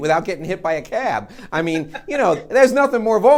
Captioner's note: laughing